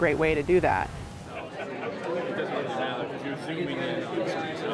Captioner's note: crowd chattering